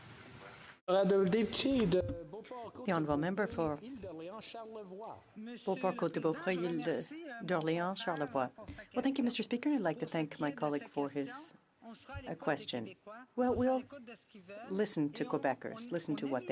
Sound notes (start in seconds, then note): 10.5 speaking French